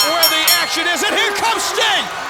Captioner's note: bell rings